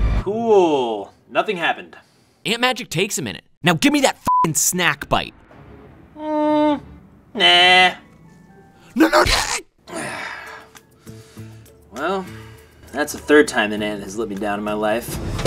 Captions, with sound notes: Cool. Nothing happened. Ant magic takes a minute. Now gimmie that f*cking snack bite! Mmm, nah. No, no-- argh! (sighs) Well, that's the third time an ant has let me down in my life.